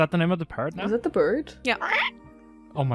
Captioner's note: parrot noises